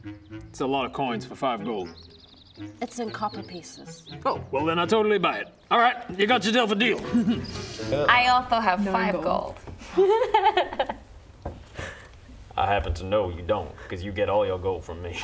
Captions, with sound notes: It's a lot of coins for five gold It's in copper pieces Oh, well then I totally buy it All right, you got yourself a deal I also have five gold *laughs* I happen to know you don't because you get all your gold from me